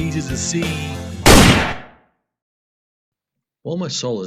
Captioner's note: loud Gunshot